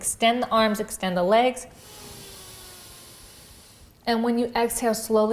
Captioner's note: breathes deeply